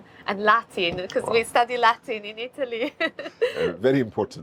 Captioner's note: chuckles